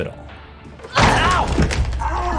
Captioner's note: Tara grunts